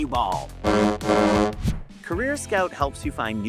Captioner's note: honking